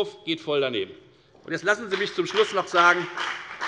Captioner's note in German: Beifall bei der FDP